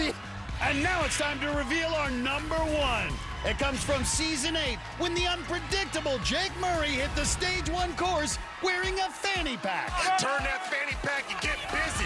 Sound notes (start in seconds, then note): 0.8 cheers and applause; 4.5 upbeat music